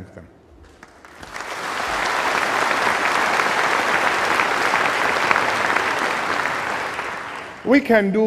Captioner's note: applause